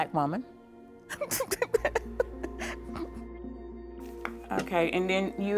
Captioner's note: laughing